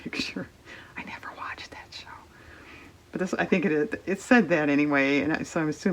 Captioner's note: whispers